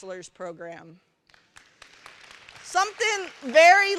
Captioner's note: applause